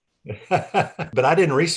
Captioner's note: laughter